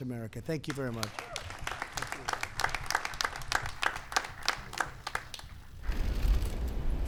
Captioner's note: applause